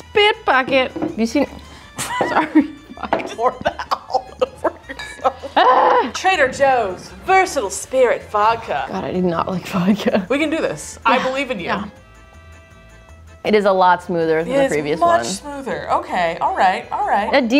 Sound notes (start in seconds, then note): 2.0 laughing; 5.5 grunting